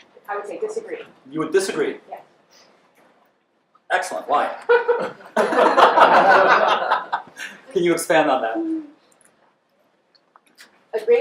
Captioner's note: laughter